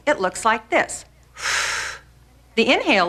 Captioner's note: breathing